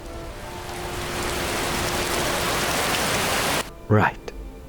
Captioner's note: rain